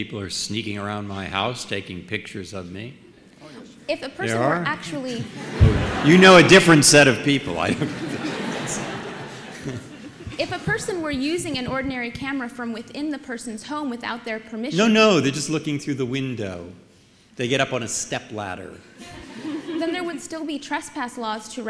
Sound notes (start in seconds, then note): 7.6 laughter